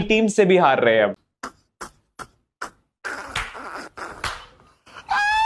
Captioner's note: laughing